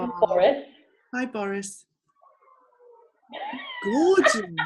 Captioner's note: cat meows; laughs